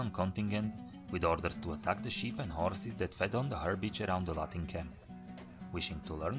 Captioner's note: Latin